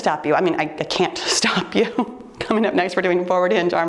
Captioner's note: laughs